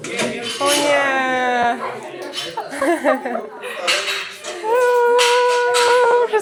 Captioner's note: laughs